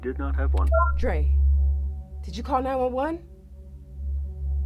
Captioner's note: soundboard beeps